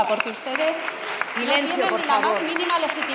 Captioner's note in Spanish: Rumores.-Aplausos